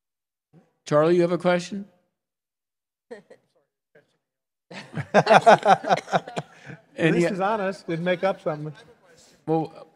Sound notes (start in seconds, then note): 4.8 panelists laugh